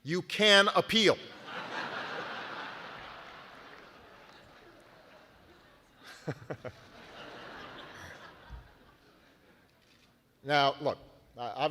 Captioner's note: laughter